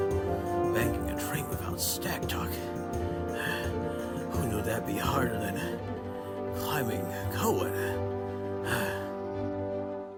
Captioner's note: panting